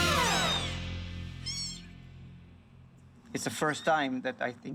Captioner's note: kitten mews